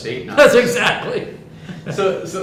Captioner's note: laughs